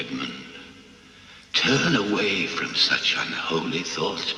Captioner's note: gasp